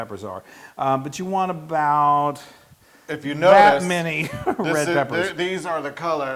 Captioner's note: laugh